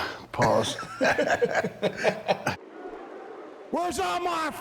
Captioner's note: Rick and Bron laughing